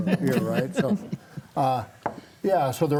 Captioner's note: panelists laughing